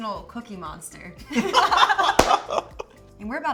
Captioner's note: both laugh